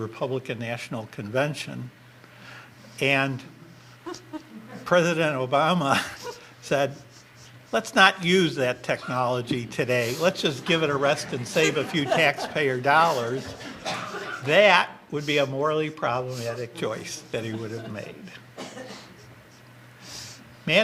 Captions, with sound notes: to the Republican National Convention, (audience laughter) and President Obama said, "Let's not use that technology today. "Let's just give it a rest, (audience laughter) "and save a few taxpayer dollars," that would be a morally problematic choice that he would have made.